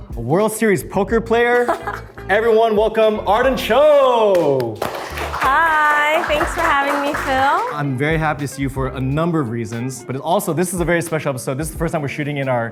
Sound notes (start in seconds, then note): 1.5 Arden laughs; 3.8 clapping off-screen